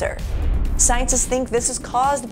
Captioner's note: air whooshing